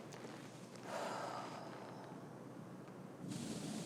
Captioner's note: Rose sighs